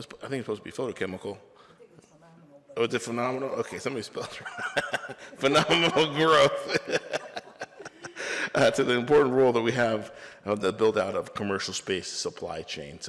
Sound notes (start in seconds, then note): 4.2 laughs